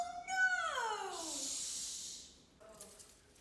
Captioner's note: Lucy shushs Gabe